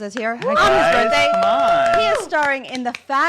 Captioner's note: applauding